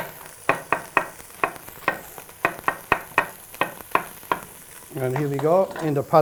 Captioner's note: chopping sound